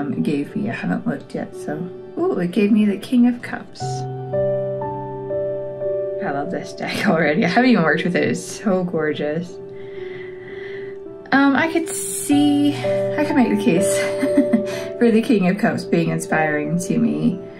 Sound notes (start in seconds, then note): 14.0 laugh